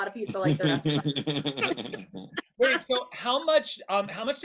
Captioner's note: everybody laughs